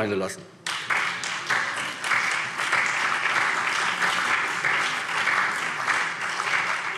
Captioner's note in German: Beifall SPD, CDU und BÜNDNIS 90/DIE GRÜNEN